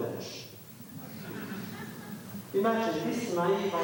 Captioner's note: laughter